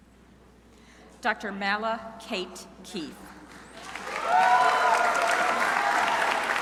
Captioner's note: crowd applauding